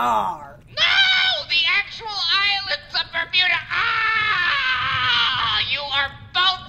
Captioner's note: yelling